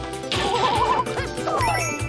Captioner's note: laughing